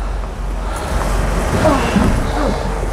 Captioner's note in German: Ächzen